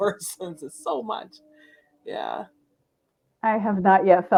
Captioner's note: laughs